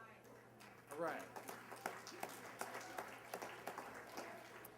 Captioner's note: applause